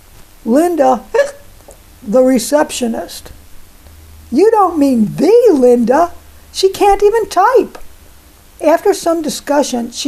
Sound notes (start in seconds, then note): 1.1 hic